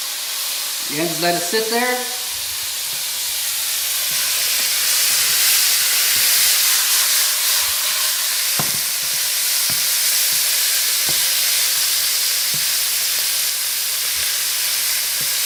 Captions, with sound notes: Again, let it sit there. (meat sizzles)